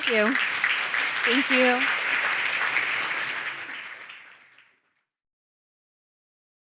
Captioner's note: audience applauding